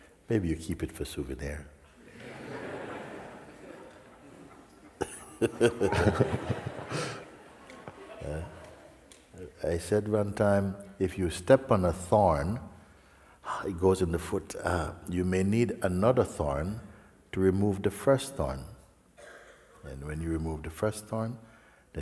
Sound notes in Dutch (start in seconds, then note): 5.1 gelach